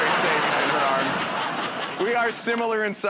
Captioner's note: laughter